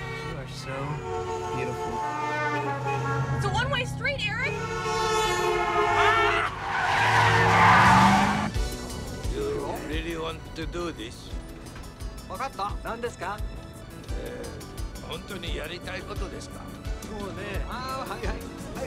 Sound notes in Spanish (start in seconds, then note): 5.7 grita; 12.2 hablando japonés